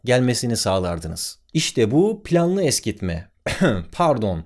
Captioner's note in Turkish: öksürük sesi